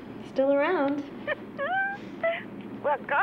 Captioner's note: laughs